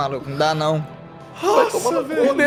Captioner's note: sighs